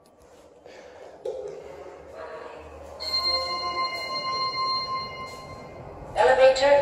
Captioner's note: chime